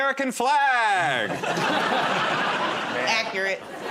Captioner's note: laughter